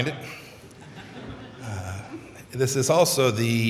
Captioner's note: laughter